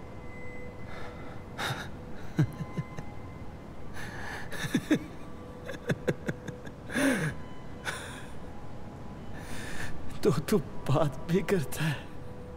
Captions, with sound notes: [Shorya chukles] [Shorya chukles] Oh! You can talk too?